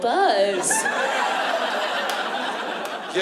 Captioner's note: laughter